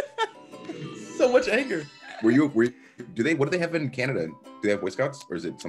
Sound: laugh

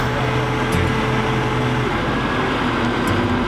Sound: machine whirrs

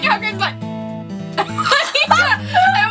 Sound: laughs

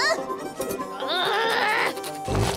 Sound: growling

